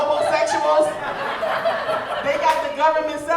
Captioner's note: audience laughing